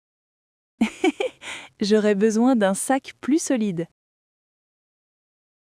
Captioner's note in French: rire